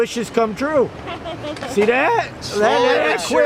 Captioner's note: laughs